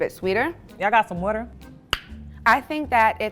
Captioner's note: lip pop